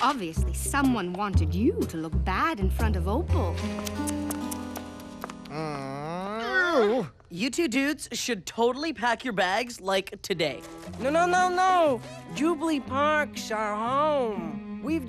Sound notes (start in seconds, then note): 3.7 tisking; 5.4 groaning